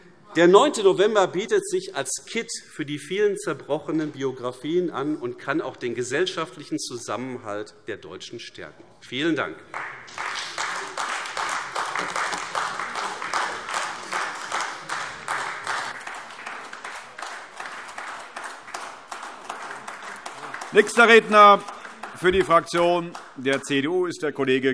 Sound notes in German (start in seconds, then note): 9.7 Anhaltender Beifall AfD